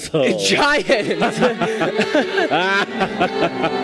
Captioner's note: Leo and the giant laugh together